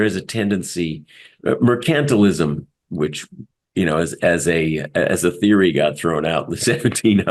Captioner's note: laugh